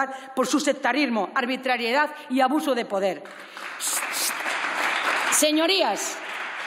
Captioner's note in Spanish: Aplausos